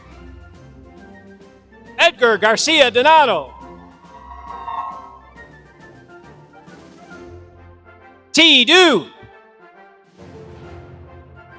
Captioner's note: applause